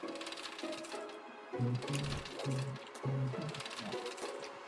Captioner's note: humming along